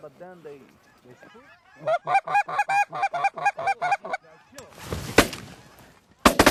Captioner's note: goose honking; gun shots